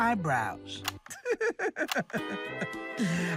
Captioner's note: laughs